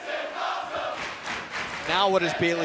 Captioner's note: fans chanting